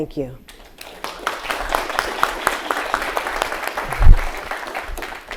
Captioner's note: audience applauding